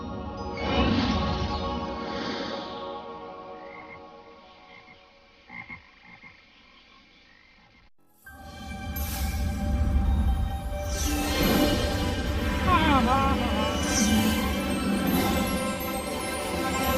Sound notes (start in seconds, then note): 3.2 frogs ribbiting; 12.4 laughs